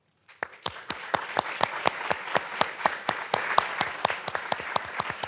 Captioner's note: participants clapping